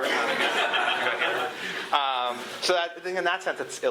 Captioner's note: laughter